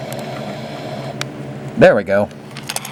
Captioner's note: crap-o-matic begins humming